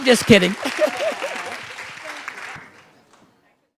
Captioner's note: continued laughter, applause